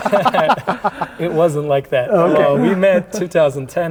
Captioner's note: laughing